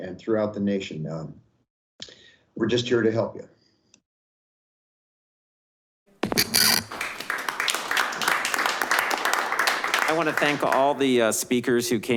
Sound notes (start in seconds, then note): 6.7 clapping